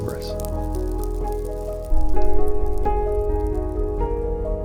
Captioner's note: fire crackling